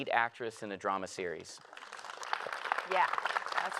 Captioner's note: applause